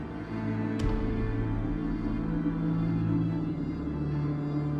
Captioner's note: gunshot blasting; tense orchestral music continues